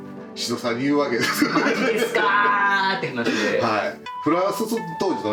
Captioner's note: laughs